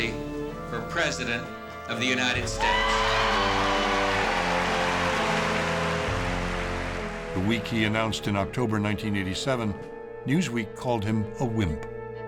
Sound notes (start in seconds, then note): 2.4 audience cheering and applauding